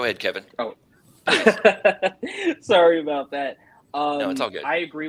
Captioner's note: laughter